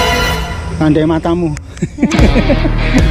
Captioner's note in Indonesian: hehe